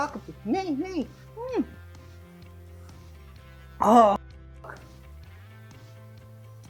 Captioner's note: frustrated noises